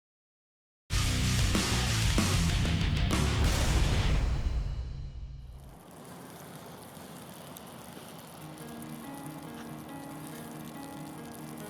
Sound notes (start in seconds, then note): 0.9 dramatic rock music; 5.6 snow falling; 8.4 gentle piano music